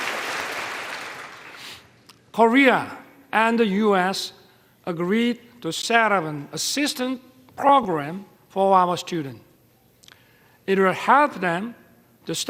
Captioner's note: applause